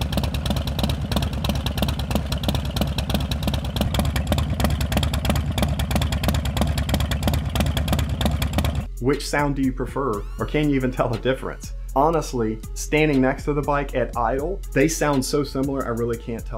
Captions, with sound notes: (engine idles) Competition Baffles (engine idles) Which sound do you prefer, or can you even tell the difference? Honestly, standing next to the bike at idle, they sound so similar I really can't tell a difference * But I can hear a difference listening to the video